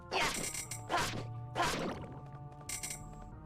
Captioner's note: none